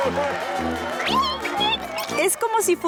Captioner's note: squeaking